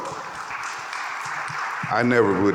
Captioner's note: audience applauding